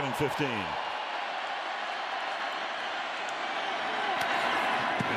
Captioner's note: cheering